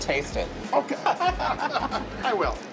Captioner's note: laughter